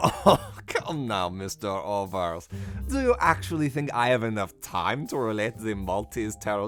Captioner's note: laughs again